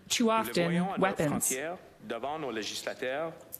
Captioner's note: speaking French